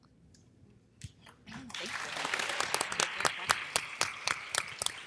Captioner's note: audience applause